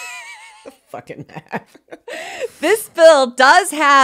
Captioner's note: laughs